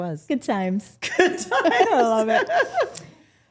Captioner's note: laughs